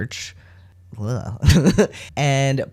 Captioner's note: sound of disgust; laugh